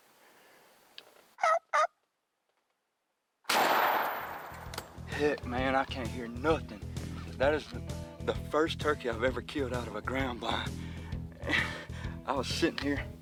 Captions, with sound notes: (turkey calling) (gun firing) (upbeat music) Heck man, I can't hear nothing. That is the first turkey I've ever killed out of a ground blind. I was sitting here